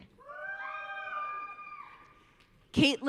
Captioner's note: audience cheering